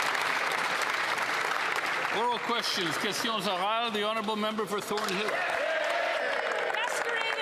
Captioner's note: applause